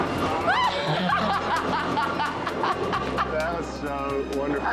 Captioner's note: laughing